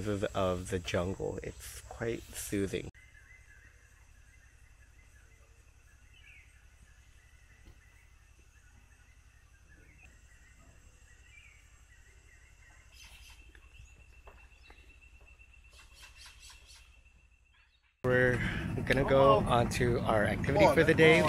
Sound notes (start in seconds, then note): 2.9 sounds of birds